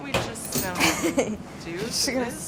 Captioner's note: laughs